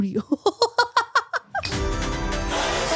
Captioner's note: laughing; upbeat music